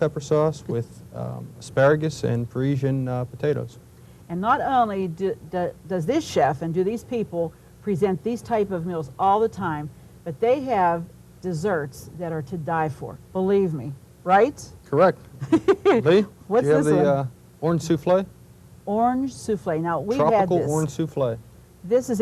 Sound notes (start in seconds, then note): 15.4 laughs